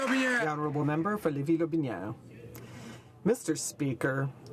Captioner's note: some Applause